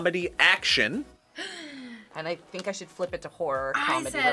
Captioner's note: gasps